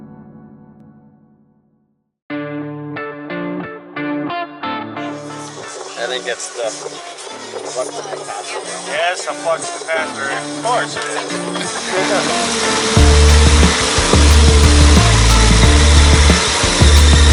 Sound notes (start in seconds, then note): 11.6 sound: Engine roaring